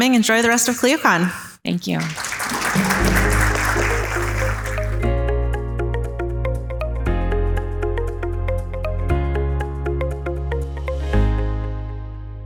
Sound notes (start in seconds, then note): 1.9 audience applauding; 2.1 upbeat music